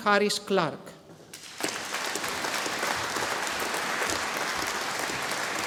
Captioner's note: audience applauding